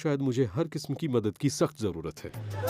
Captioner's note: man shouts